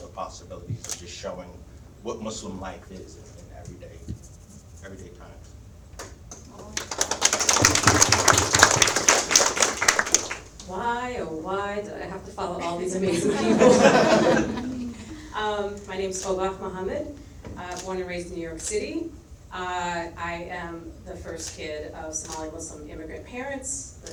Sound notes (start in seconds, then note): 6.3 audience applauds; 12.6 audience laughs